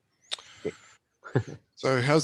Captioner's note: laughs